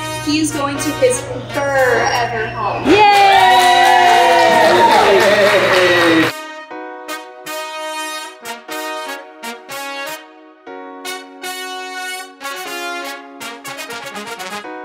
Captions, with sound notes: He's going to kiss fur-ever home. - [Crowd] Yay! (everyone cheering) (upbeat music)